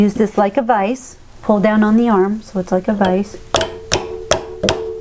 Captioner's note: clongclogclongclongclongCLONG